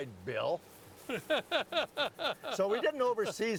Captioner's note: laughing